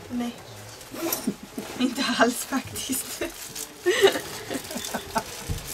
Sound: laughing

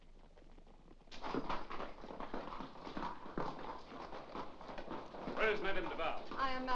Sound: carriage rattles away

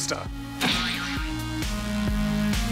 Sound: ka-sproing!

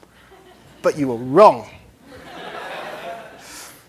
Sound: laughter

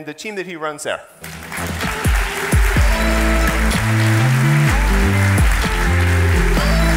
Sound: audience applauding; twitchy music

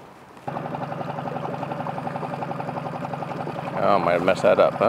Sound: boat engine chugging

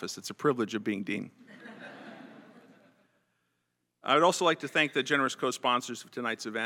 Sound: laugh

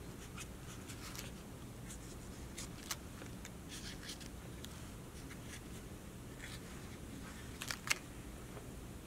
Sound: marker scratching

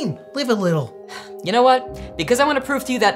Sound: sighs

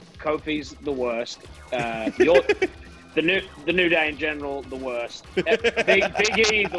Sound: laugh

